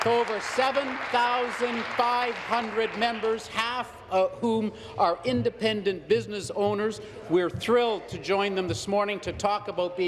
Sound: applause

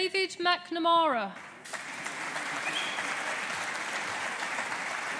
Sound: audience applauding

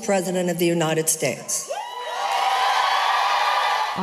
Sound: cheering and applause

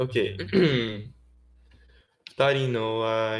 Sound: clear throat

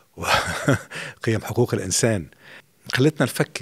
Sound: laughing

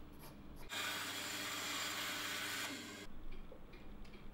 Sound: drilling

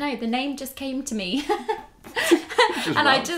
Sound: giggles

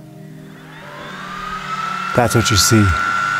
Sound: cooling fan turning on

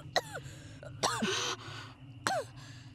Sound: coughs; gasp; coughs

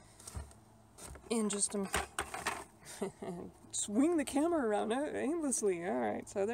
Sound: laughs

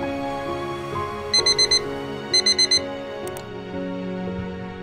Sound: alarm Beeping

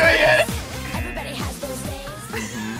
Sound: buzzer; buzzer

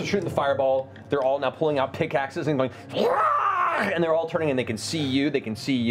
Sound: yelling

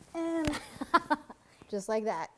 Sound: laughs

